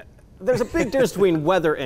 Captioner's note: laughs